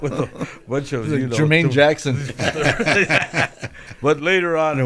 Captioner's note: laughter